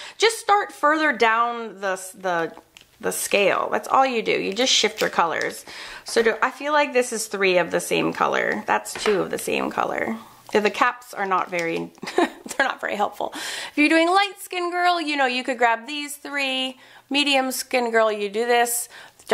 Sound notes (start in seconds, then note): 12.0 laughs